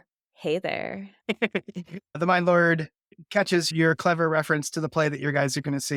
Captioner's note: laughter